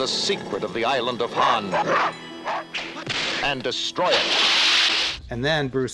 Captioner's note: dog barking